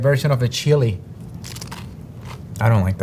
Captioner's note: mouth crunching